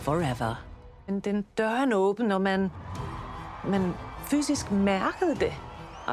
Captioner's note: speaking in foreign language